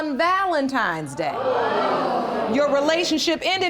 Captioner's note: audience groans